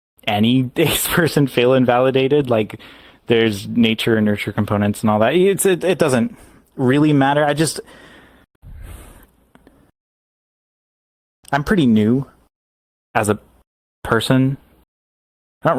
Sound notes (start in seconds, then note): 5.7 stammering; 8.6 exhaling, trying to think